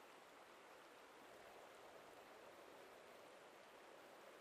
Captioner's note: wind blowing softly